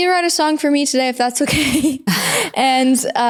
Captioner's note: laughs